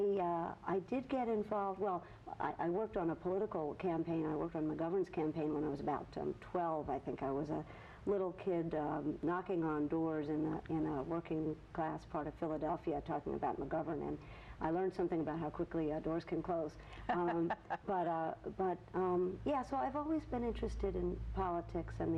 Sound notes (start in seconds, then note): 17.0 laughs